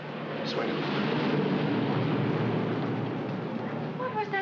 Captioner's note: aircraft roars overhead